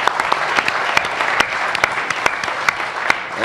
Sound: applause

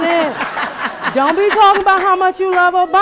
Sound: laughter

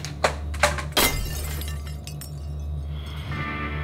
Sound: glass breaking

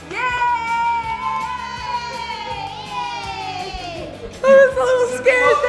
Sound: everyone cheers

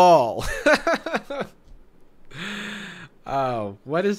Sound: laughs

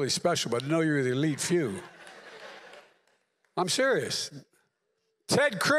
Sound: laughter

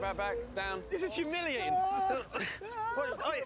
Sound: groans

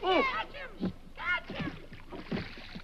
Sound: water splashes

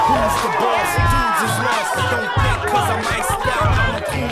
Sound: crowd noise

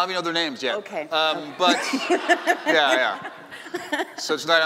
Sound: laughing

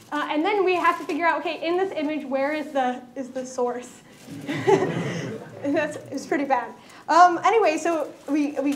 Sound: laughter

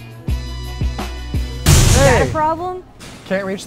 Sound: smashing sound

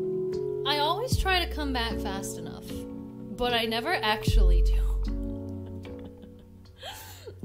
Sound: laughs

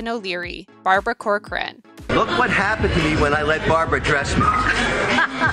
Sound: Corcoran laughs

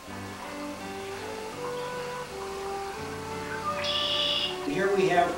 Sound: Music and Red-winged Blackbird chirping

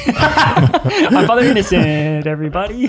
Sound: father laughs

